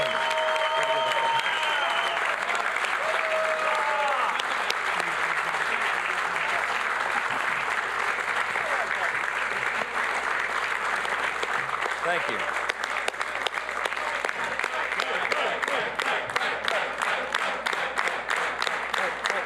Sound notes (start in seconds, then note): 9.8 applause; 19.2 applause